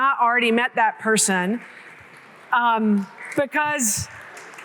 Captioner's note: applause